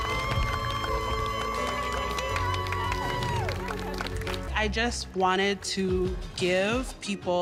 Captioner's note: cheers and Applause